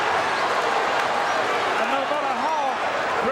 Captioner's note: audience cheering